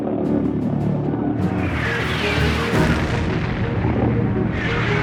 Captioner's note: rocket engine roaring